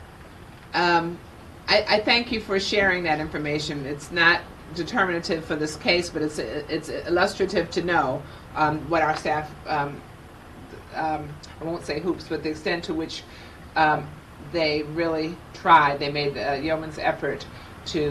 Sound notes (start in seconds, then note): none